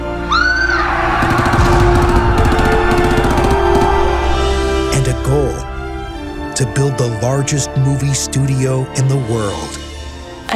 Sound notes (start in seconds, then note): 0.2 scream; 1.2 automatic guns firing